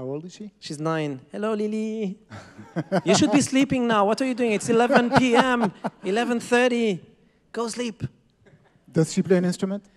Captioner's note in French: rires